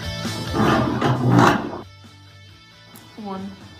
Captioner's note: sound of chair being dragged on ground